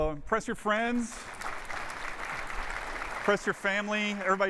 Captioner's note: applause